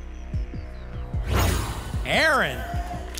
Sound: whoosh

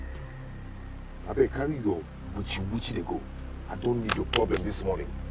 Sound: foreign language

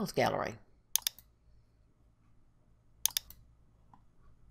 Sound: mouse clicks

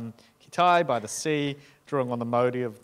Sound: speaking in foreign language

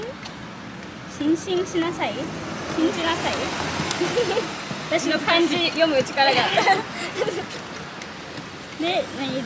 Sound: laughs

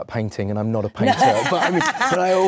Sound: Awkwafina laughs

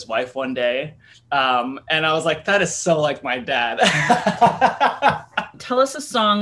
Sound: laughs

